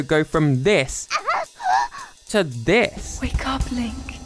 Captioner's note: laugh